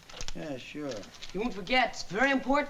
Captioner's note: paper crinkling